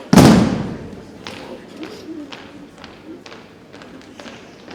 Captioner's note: rhythmic thumping continues